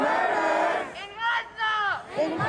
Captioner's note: chanting